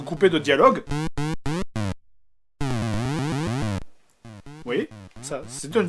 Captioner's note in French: bruitages 8 bit moches